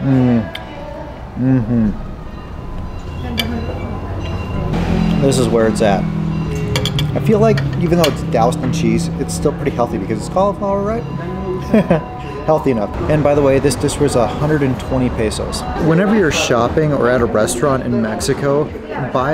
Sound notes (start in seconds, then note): 11.5 chuckles